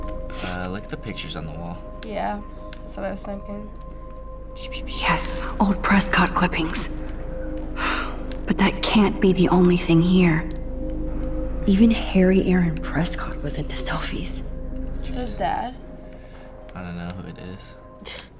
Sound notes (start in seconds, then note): 7.7 sighs